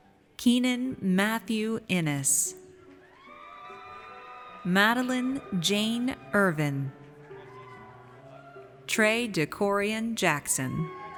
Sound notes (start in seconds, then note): 2.9 audience cheers; 10.7 audience cheers